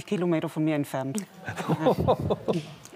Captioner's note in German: Lachen